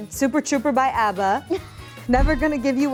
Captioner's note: Mary laughs